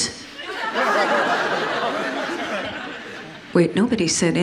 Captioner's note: audience laughs